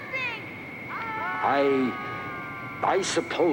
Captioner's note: group yelling